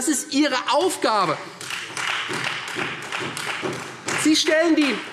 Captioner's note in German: Beifall Freie Demokraten